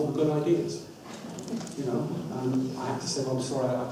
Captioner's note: audience laughs